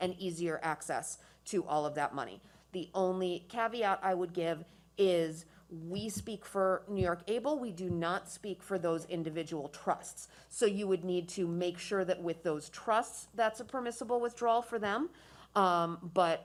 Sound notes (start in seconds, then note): none